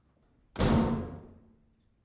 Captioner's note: door slams